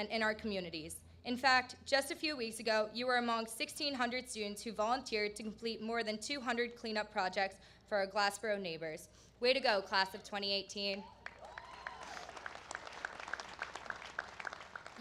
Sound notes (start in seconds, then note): 11.2 applause